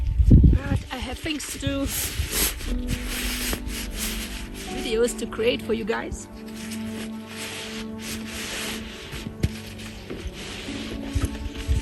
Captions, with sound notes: But I have things to do ... videos to create for you guys. [Sound of rustling and packing]